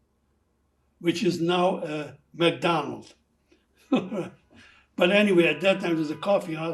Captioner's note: laughing